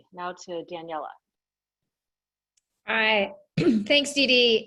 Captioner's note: cough